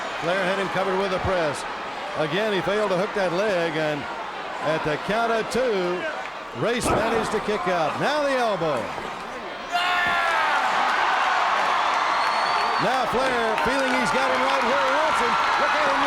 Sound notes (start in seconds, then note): 9.6 Flair yells; 10.1 crowd cheers